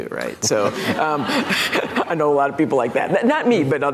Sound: audience laughs

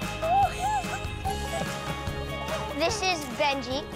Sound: giggles

